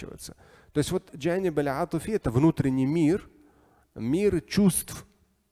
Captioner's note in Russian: говорит на арабском